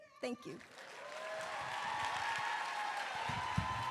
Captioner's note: applause